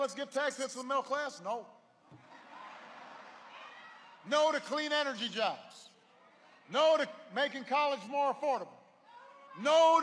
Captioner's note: laughter